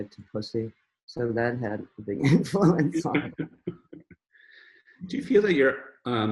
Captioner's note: both chuckle